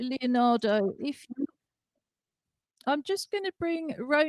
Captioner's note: distorted audio